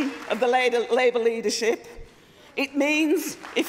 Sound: applause

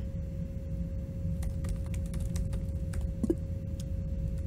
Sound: moar intense typing

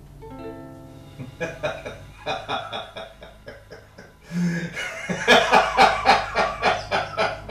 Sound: manic Laughter

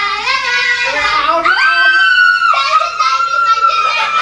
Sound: croaks; screaming

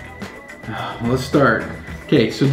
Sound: sighs

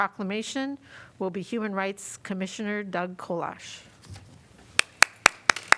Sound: applause

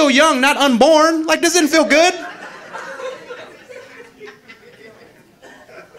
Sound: audience laughing

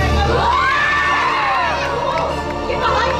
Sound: the sisters scream in horror

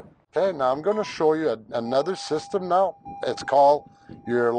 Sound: car dings

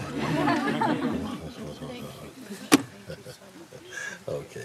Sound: Lachen

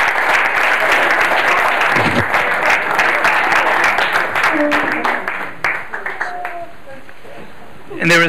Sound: clapping

